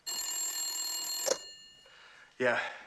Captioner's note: ring